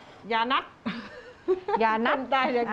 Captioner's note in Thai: เสียงหัวเราะ